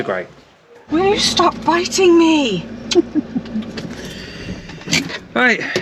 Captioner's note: laughter